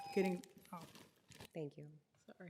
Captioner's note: ringing bell